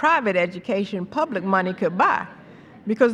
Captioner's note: laughter